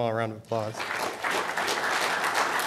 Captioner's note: applause